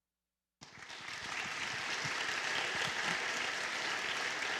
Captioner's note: applause